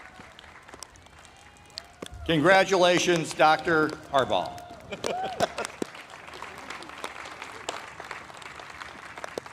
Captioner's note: applause